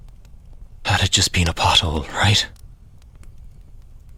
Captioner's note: breathless Tone